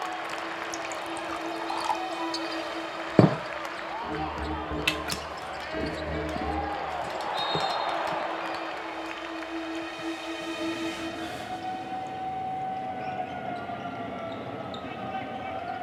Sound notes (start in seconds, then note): 1.0 dramatic music; 5.5 TV quietly prattling; 7.4 referee whistles; 8.7 audience applauding; 11.6 sirens wailing